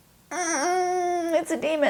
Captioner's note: groaning